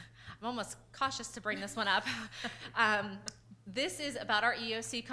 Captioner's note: laughs